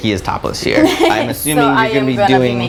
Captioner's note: laugh